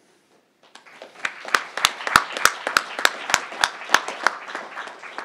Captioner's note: crowd applauding